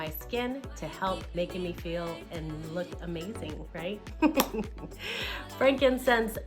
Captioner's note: laughs